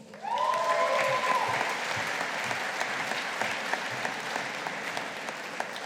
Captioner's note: audience applauding